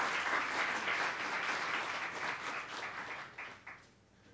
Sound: applause

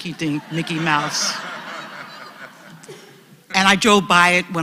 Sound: laugh

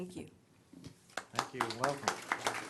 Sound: applause

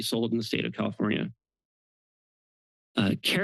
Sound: pause

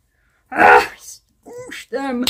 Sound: another grunt of emotion; grunt of emotion

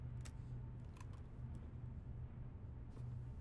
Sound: none

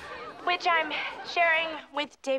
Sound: students laughing

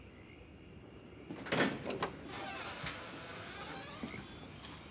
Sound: door opens

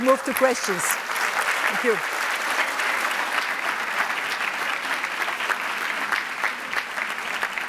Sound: applause

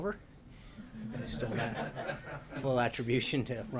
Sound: laughter

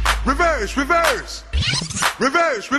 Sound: reverse record scratch

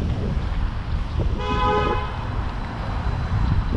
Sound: distant car horn

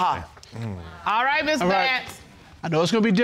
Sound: sighs in exasperation

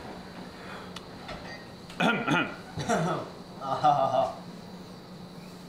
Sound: coughs

